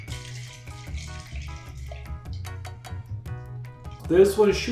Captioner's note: liquid swishing